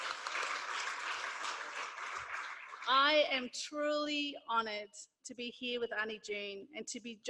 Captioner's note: applause